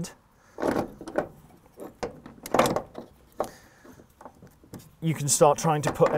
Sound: clunking

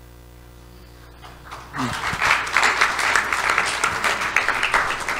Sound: audience applauds

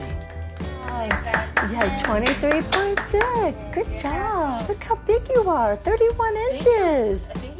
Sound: clapping

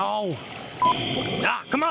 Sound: intercom

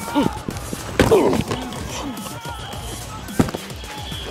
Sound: pads crunching

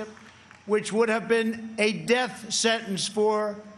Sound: applause

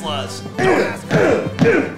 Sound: stomping and grunting

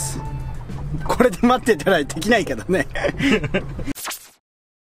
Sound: haha

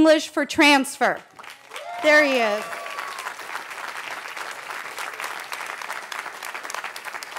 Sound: cheering

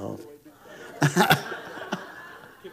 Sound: congregation laughing

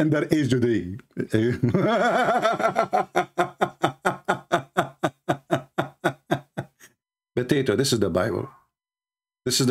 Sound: Ketawa

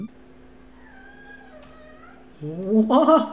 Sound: cat mewling

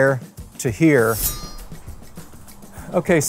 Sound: sword slicing

